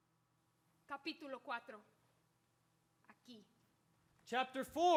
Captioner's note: speaks in Spanish